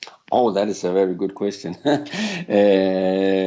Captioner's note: chuckles